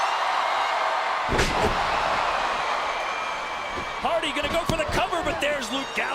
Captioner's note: applause